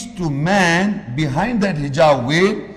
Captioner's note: Arabic